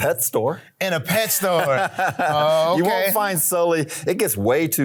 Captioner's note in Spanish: Beran se ríe